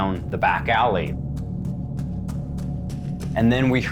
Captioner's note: footsteps approaching